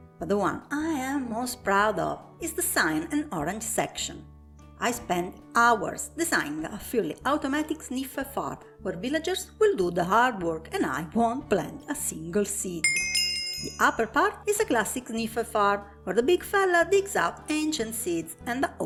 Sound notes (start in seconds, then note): 12.8 level-up sound